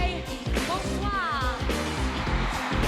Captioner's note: cheering